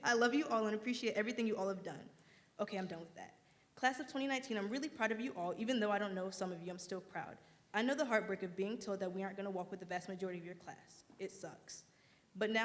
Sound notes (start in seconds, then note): none